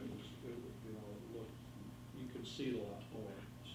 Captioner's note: faintly speaking